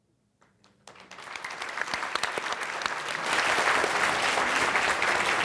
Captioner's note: audience applauds